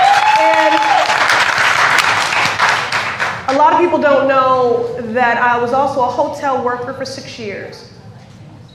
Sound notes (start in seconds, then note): 3.2 cheers and applause